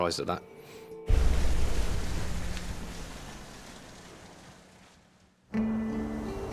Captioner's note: boat engine revving; gentle music